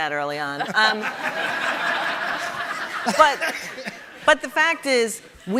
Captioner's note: audience laughing